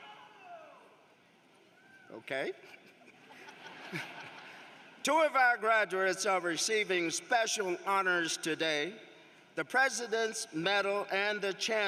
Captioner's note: applause